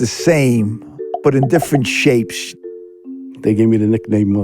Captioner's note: bubbles popping